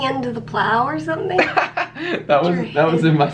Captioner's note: laughs